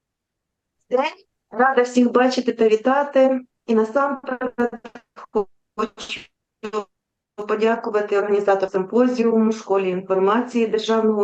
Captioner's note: foreign Language